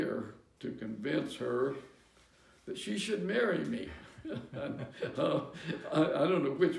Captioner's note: laughter